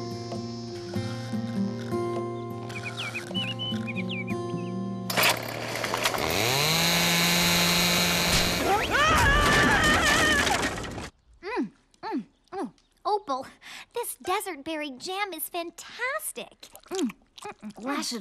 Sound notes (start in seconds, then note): 2.6 snoring; 5.1 chainsaw whirring; 16.6 chewing